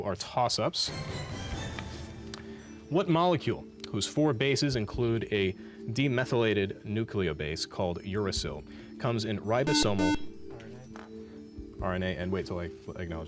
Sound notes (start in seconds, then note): 0.1 dramatic music; 9.6 beep